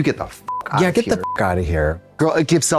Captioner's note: beep